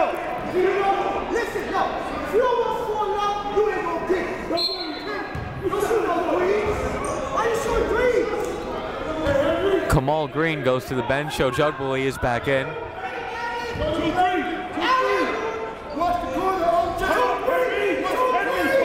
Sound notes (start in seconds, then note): 4.5 whistle blowing